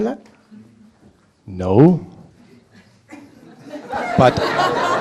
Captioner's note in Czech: smích